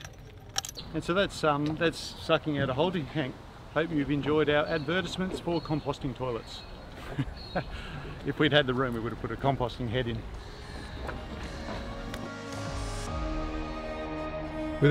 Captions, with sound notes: - And so that's sucking out a holding tank. I hope you've enjoyed our advertisements for composting toilets. (laughing) If we'd had the room, we would've put a composting head in. (gentle music)